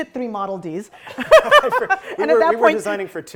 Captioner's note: laughing